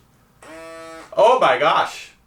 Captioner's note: machine buzzes